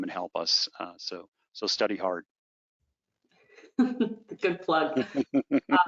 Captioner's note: laughing